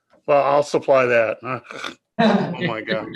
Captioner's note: snorting; members laughing